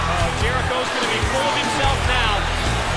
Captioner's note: crowd cheering